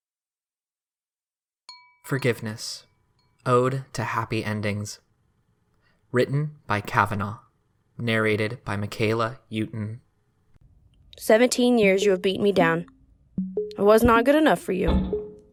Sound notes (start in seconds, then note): 1.7 chime sound